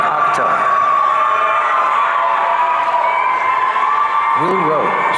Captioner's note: audience cheering